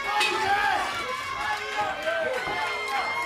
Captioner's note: bell ringing; crowd chatter